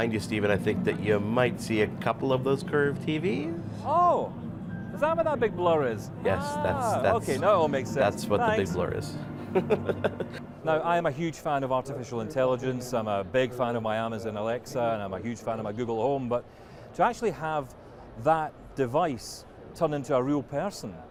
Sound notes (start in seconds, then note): 9.4 laughs